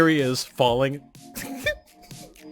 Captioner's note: giggle